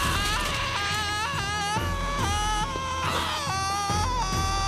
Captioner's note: screaming